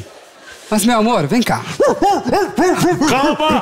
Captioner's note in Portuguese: latidos